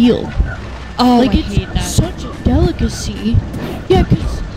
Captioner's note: mocking